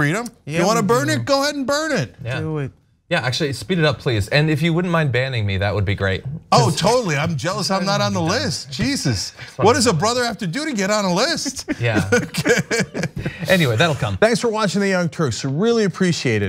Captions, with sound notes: You wanna burn it, go ahead and burn it. >> Yeah, actually speed it up please, and if you wouldn't mind banning me, that would be great. >> Totally, I'm jealous, I'm not on the list. Jesus, what does a brother have to do to get on a list? >> [LAUGH]. >> Okay. >> Anyway, that'll come.